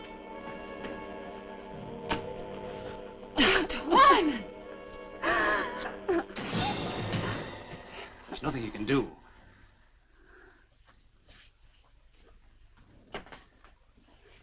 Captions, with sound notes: - Dr. Wyman! (gasping) - There's nothing you can do.